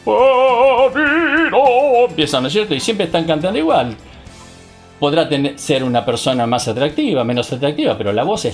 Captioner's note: ohhhhhh